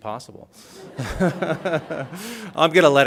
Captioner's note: laughs